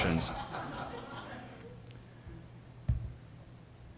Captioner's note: laughter